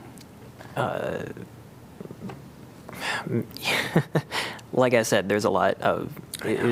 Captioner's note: laughter